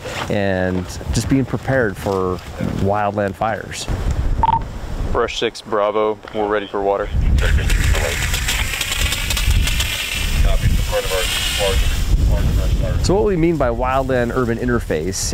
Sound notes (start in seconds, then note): 7.4 water spraying; 7.8 radio chatter